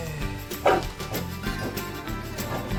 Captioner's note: dog barking